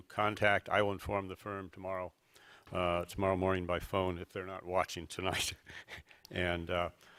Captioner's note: laughs